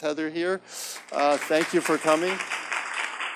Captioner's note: audience claps